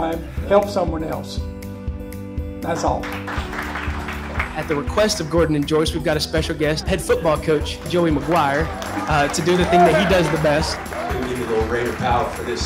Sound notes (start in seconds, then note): 7.6 crowd Cheering